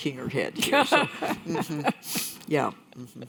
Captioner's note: laughs